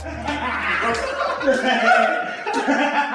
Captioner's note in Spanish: risas